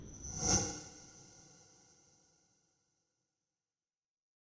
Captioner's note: gentle chime